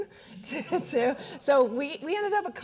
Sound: audience chuckling

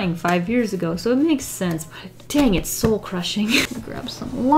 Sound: laughs

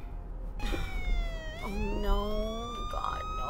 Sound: siren wailing

